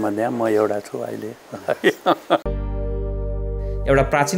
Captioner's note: laughter